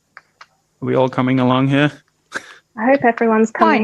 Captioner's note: laughs